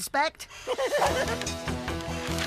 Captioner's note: giggling